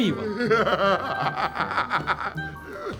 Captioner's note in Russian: смех